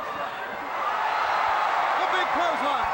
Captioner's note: crowd roaring